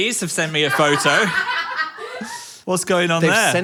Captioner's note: background laughing